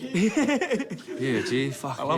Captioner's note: laughs